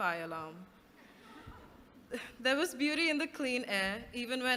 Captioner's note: laughter